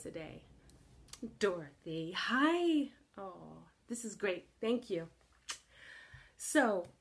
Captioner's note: kiss